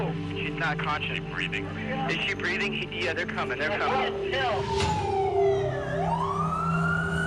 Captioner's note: sirens